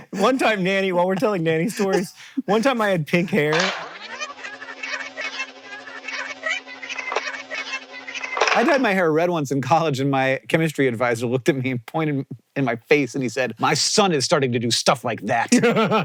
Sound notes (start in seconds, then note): 3.5 tape whirs